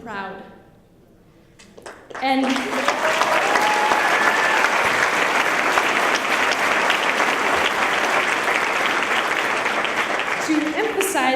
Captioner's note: applause